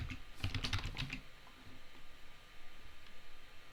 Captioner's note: keys tapping